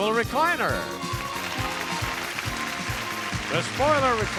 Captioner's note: audience clapping